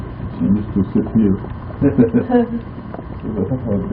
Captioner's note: laughing